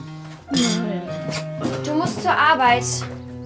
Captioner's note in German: schläfrig